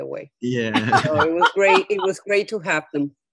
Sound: laughing

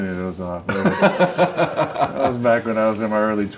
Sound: laughs

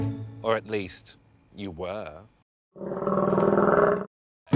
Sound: growls

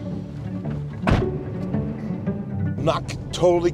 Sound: RV door slams

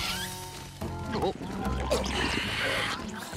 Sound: swallowing

